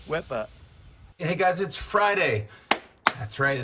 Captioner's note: applauds